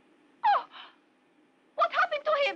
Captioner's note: gasps